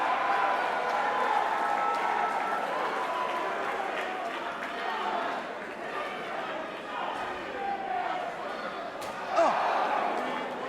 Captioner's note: crowd cheering